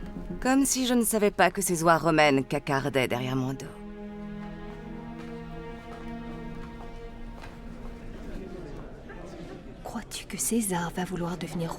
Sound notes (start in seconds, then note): 7.6 guests chattering